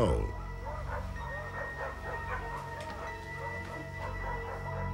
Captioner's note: barking